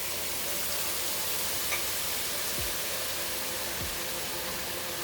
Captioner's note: pan sizzling